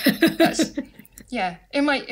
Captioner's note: laughter